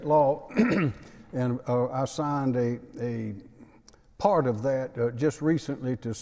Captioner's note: clears throat